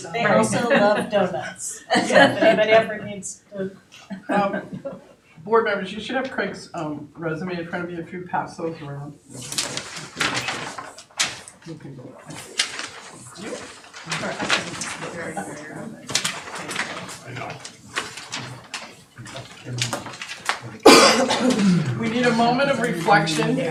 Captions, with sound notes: They are so love doughnuts. Anybody ever needs doughnuts? Board members, you should have Craig's resume in front of you, if you pass those around. (paper rustling) We need a moment of reflection.